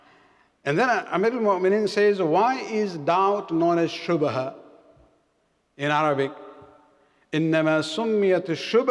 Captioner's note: arabic